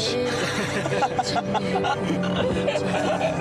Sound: started laughing

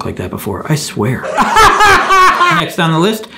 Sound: laughs

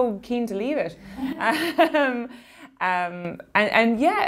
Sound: laughing

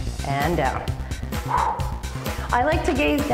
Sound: breathes

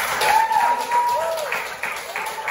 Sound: clapping

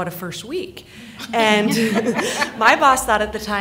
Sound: laughing

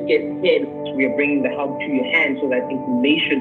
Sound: murmurs

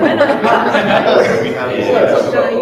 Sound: all laughing loudly

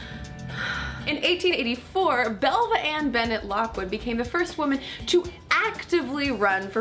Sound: sigh

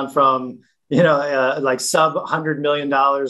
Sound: chuckles

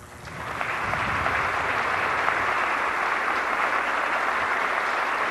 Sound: audience applauding

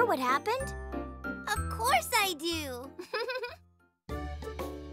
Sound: chuckles

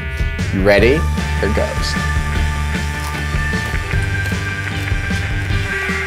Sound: crunches

